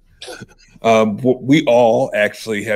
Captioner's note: laughs